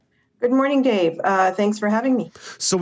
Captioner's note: on phone